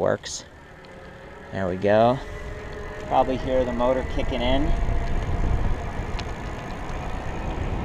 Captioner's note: motor whirring